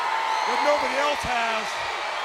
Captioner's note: audience cheering